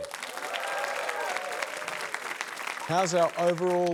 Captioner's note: cheering